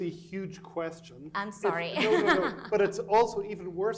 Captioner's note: chuckles